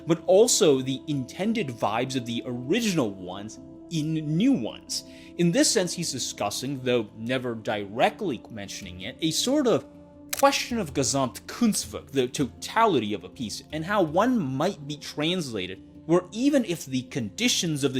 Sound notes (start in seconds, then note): none